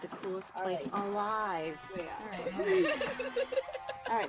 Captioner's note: laughs